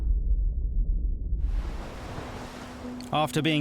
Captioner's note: underwater waves pounding